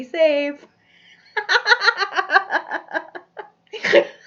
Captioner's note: laughs